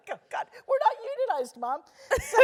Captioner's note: laugh